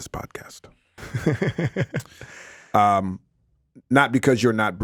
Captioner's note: Justin laughs